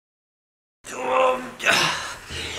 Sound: grunts

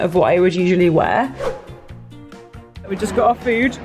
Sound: whooshing

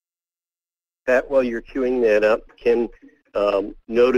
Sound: voiceover

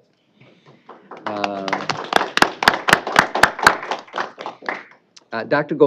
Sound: applause

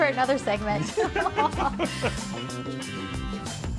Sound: laughing

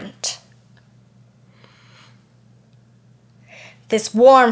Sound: sniffs

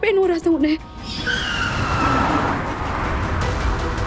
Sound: tyres screeching

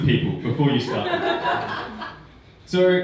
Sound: audience laughing

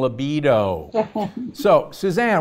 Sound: Suzanne chuckles

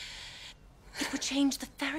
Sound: Elizabeth inhales sharply

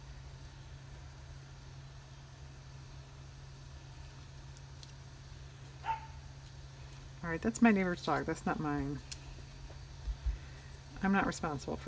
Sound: dog barking

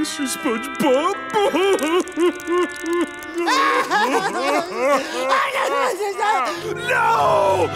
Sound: crying

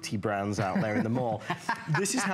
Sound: laughter

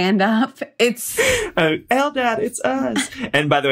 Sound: laughter

